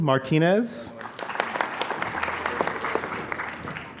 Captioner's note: applause